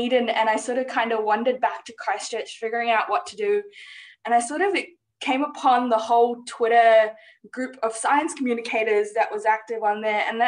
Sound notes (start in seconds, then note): none